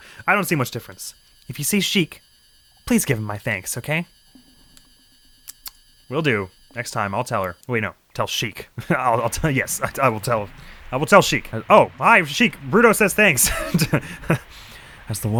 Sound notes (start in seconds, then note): 6.1 tsk, tsk